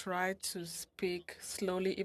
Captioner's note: speaking French